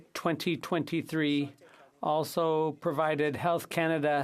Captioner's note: speaking French